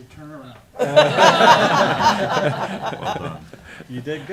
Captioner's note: laughter